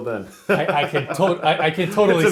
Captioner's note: laughs